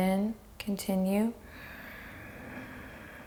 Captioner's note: breathes deeply